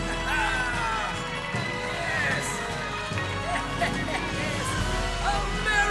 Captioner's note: crowd cheering; Jefferson laughs proudly